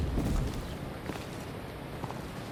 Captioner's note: footsteps